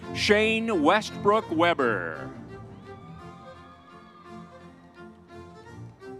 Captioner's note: crowd cheering